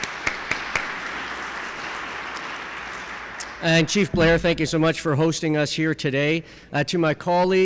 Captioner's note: applause